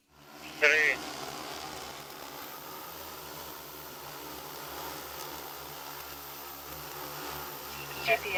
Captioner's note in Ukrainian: звук дрона